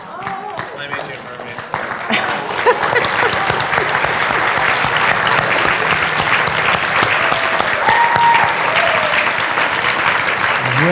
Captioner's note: applause